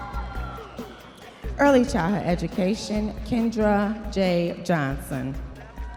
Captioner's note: audience members cheering